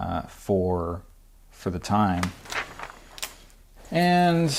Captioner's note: pages flapping